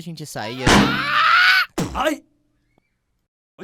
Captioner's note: yeling